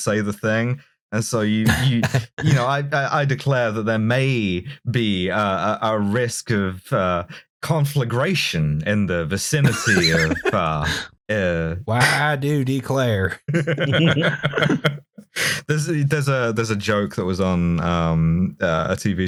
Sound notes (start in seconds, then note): 9.6 laughter; 12.1 southern accent; 13.4 laughter